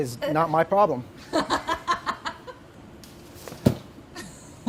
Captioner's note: laughs